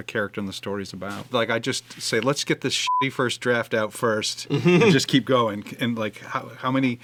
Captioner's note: beepy